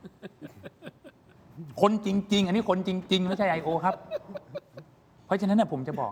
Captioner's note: laughs